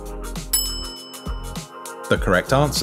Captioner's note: bell rings